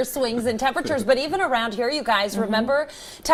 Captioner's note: laughter